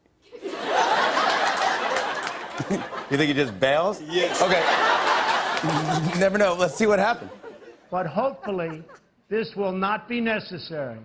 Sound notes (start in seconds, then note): 0.3 laughter; 0.3 chuckles; 4.1 laughter